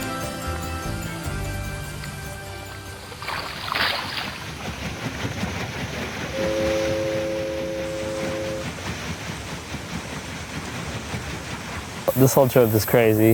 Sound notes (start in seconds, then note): 3.9 water lapping; 6.3 horn